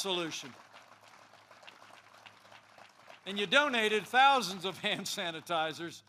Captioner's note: applause